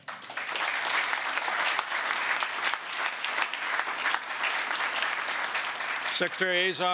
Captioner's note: applause